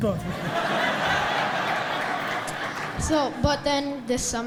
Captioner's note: audience laughs